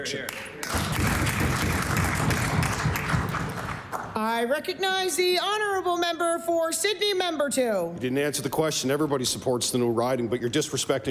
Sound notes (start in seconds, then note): 5.1 applause